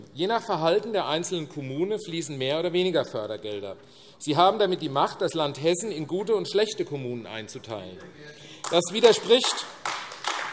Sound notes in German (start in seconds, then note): 8.6 Beifall